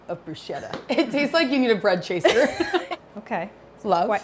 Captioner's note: chuckles